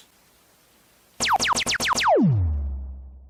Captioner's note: pew Pew Sounds